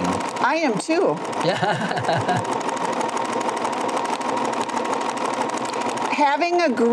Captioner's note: stitching